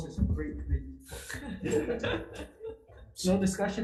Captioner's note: laughter